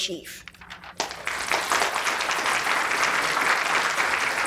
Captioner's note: audience applauding